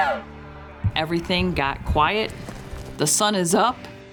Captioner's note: elk call